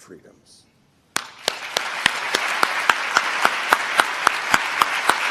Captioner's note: applause